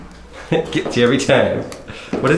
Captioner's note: laughs